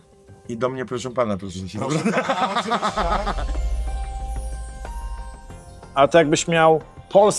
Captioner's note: laughter